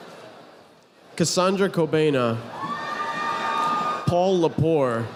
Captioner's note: audience applauding